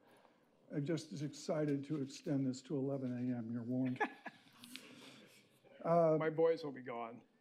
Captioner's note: laughter